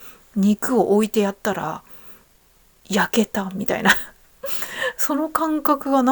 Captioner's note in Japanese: 笑い